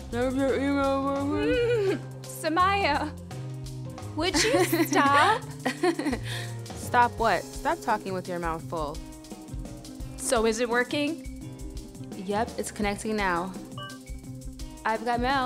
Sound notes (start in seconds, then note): 4.3 giggles